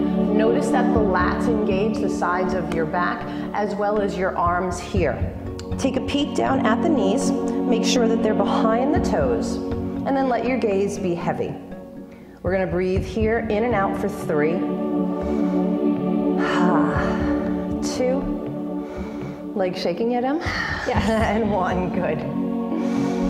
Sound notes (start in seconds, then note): 15.1 exhale; 18.7 inhale; 20.6 exhale